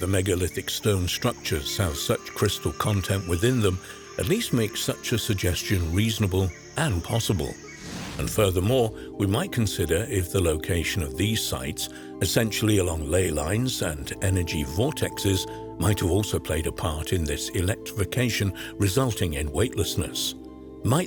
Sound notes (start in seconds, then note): 0.0 crickets chirping; 7.7 air wooshing